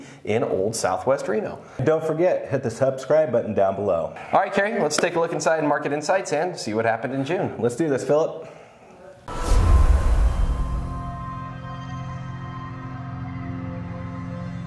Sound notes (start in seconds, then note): 9.2 explosion; 9.3 dramatic orchestral music